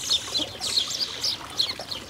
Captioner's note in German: Gezwitscher